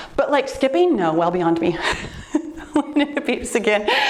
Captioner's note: laughs